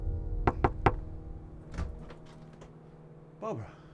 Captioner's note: knocking on door